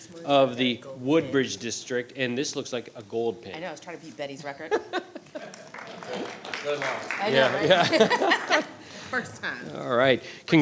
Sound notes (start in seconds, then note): 4.7 laughing; 5.3 audience applauding